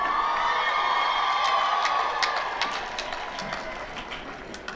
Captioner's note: cheering